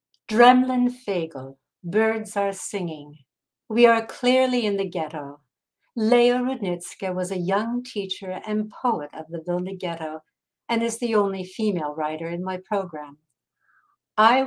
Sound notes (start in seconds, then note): 0.8 speaking in foreign language